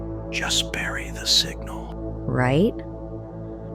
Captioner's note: whispers